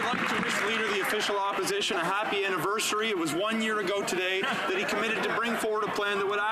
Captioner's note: some Applause